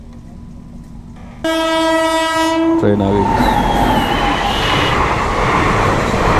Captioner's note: train honking; train clatter